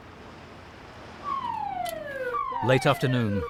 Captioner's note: siren blaring